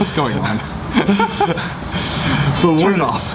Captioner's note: laughing